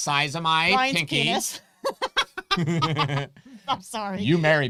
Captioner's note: both laughing